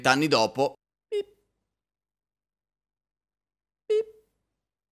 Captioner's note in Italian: bip